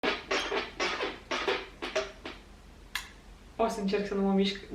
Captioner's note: chair noises